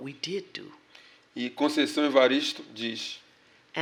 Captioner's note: speaking portuguese